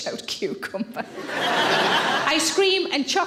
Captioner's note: audience laughing